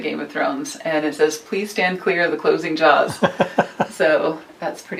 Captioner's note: laughter